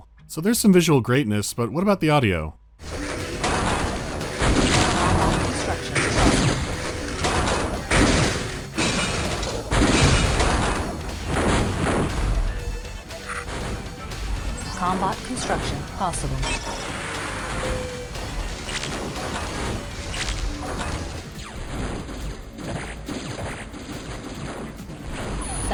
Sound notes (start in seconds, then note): 2.8 metallic bashing; 11.2 popping shots; 16.1 popping shots; 16.7 popping shots and beeping of interface; 21.4 zapping of energy shots